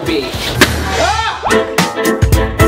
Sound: balloon pops; funky upbeat music

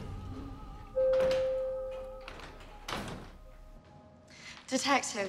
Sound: elevator chimes

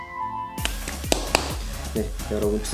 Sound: slapping hard

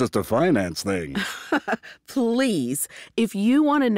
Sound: laughs

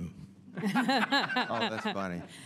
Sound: panel laughing

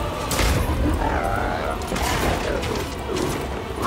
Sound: wails

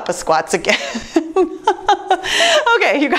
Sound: laughs

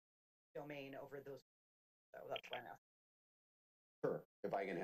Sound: audio cuts

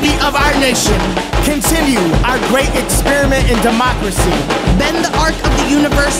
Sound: male Voice

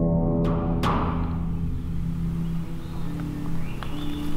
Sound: hand knocking; birds chirping

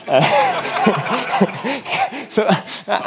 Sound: laughs

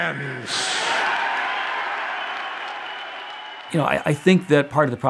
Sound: audience applause

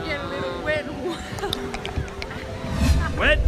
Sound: tongue flapping

